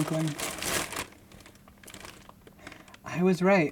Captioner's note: plastic crinkling